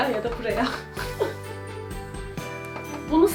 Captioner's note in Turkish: gülüşmeler